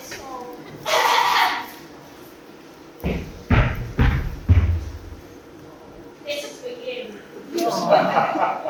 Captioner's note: stomps